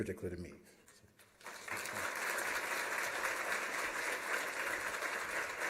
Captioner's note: applause